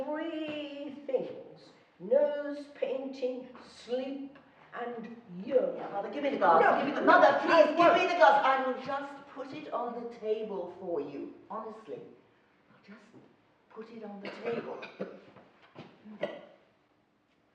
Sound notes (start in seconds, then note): 8.1 arguing; 14.2 coughing